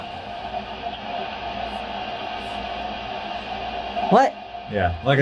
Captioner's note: water rushing